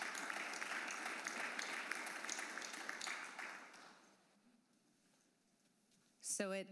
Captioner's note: applause